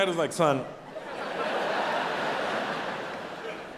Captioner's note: audience laughs